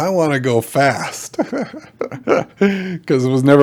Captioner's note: laughing